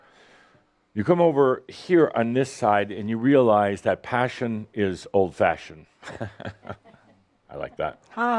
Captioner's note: Adamus chuckles